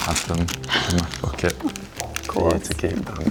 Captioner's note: laughing